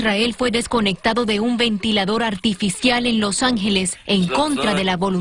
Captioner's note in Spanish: hablando en inglés